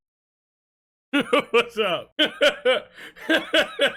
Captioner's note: laughs